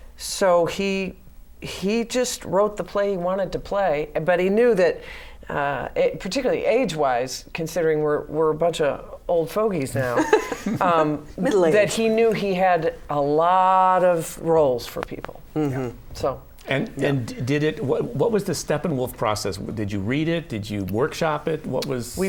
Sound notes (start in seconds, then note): 10.1 laughter